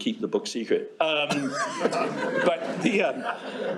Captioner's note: laughter